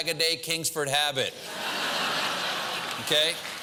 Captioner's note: laugh; applause